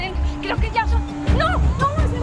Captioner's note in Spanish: Se oyen sirenas